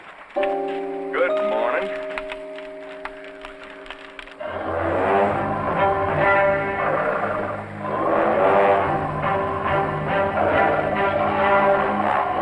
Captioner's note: applause